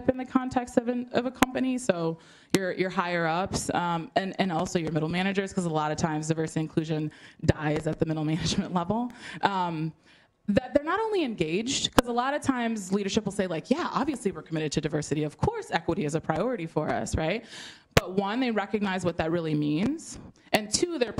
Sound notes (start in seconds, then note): none